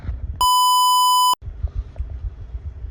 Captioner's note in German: Piep